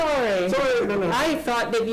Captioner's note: group chatters